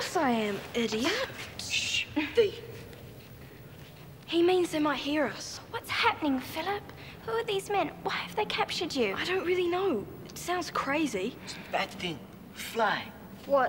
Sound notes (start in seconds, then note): 1.9 shushes